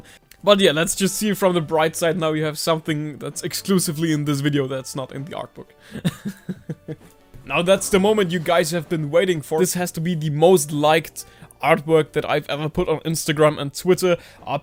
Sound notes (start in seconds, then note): 5.8 chuckles